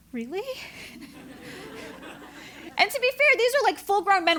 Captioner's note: laugh